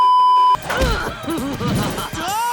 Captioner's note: beeeeeep; Jasper "oof"ing then laughing